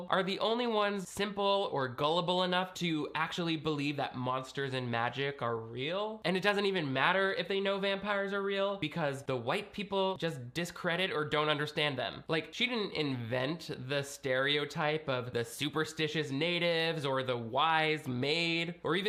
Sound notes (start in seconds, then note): none